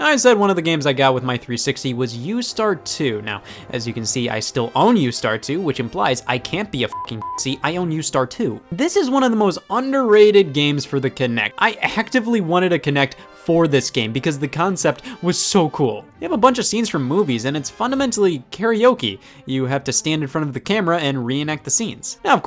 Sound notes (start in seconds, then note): 6.9 beep